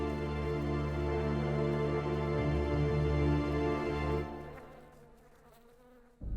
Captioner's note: somber music; flies buzzing